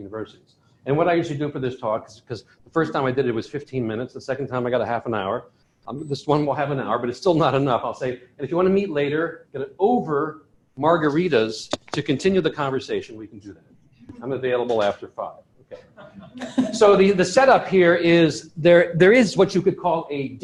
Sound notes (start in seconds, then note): 15.7 laughter